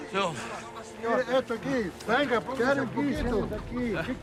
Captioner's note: speaking spanish